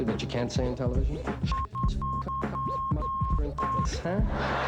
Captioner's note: beeping; laughter